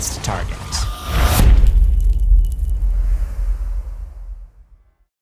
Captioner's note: impact